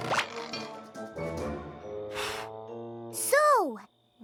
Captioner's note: blows